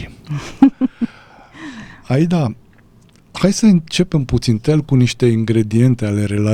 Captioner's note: laughter